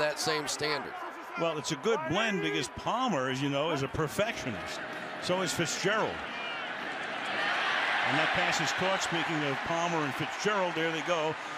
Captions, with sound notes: get held to that same standard. Well, it's a good blend because Palmer, as you know, is a perfectionist. So is Fitzgerald. [cheering] And that pass is caught, making Palmer and Fitzgerald-- there